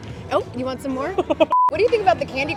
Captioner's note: chuckles